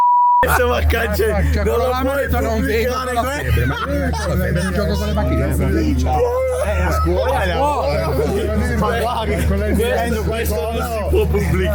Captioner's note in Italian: risate